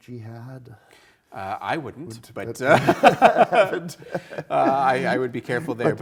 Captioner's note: both laughing